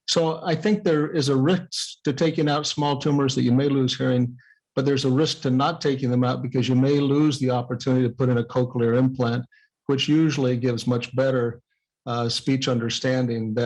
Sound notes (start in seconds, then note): none